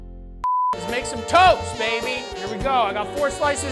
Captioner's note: beep